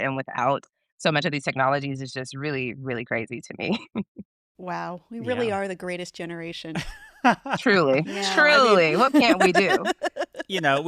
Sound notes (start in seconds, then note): 5.2 chuckles; 6.8 chuckles